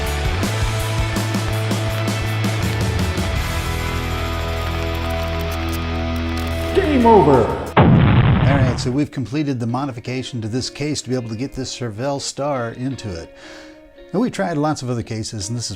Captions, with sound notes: GAME OVER! (EXPLOSION) All right so we've completed the modification to this case to be able to get this Charvel Star into it and we tried lots of other cases and this is